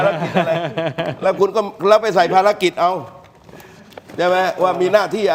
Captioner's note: laughs